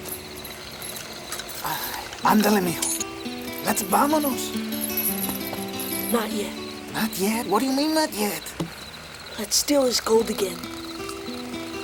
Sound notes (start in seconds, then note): 2.5 speaks Spanish